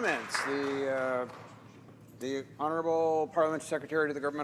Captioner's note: some Applause